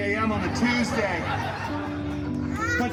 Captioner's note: guests laughing